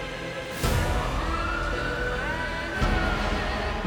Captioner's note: sirens wailing